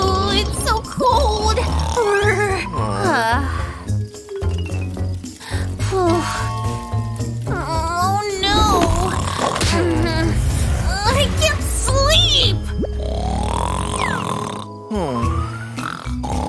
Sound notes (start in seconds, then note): 0.0 grumbles; 4.7 snoring; 5.3 sighs; 13.0 snoring